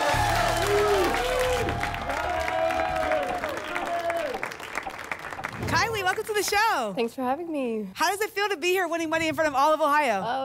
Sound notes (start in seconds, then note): 2.1 applause and cheering